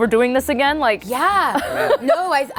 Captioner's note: laughs